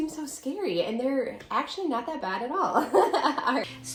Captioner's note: laughing